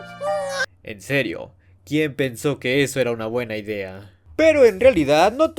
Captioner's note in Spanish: Llanto de no-bebe